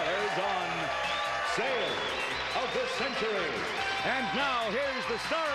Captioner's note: audience applauding